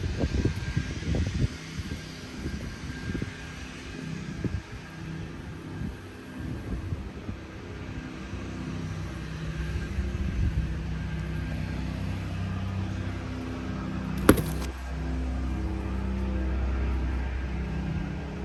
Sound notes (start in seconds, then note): 14.2 object thuds; 15.3 machine rumbling